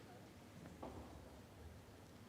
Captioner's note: none